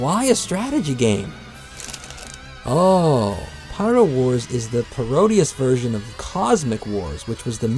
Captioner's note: paper rustling